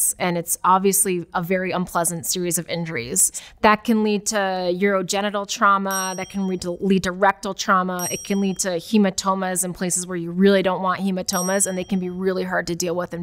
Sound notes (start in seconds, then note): 5.9 bell dings; 8.0 bell dings; 11.3 bell dings